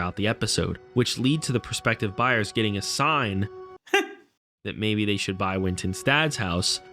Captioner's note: heh